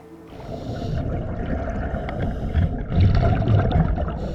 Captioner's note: water bubbling